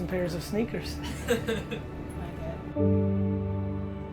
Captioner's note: laughs; uplifting music